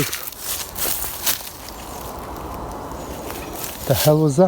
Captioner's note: leaves rustling